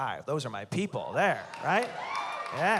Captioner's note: cheering